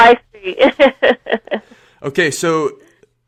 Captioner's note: laughter